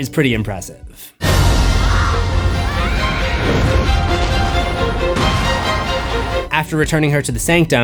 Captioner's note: Holly screaming